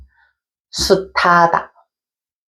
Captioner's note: pronouncing Korean